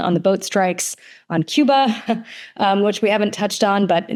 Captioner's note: chuckles